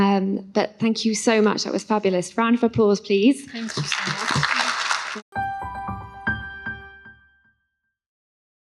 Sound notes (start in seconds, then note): 3.5 applause